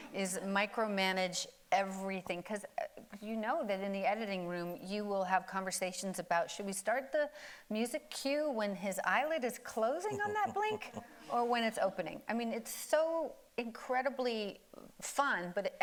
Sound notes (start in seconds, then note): 10.0 laughing